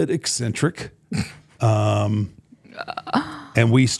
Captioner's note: Michelle laughing